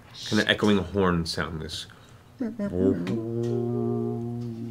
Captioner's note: low horn noise